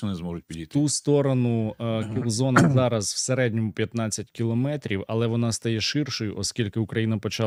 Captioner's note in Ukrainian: прочищення горла